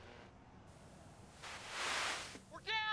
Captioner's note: radio static